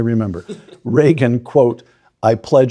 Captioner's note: Ben chuckling